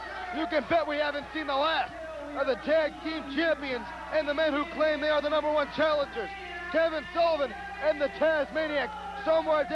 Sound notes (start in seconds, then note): 2.3 crowd chatter